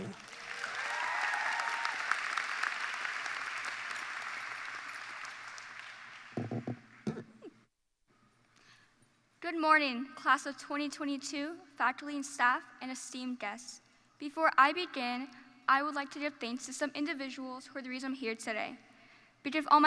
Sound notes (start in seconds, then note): 3.0 applause